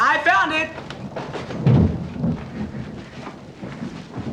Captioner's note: thunder